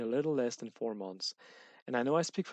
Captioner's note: breathing in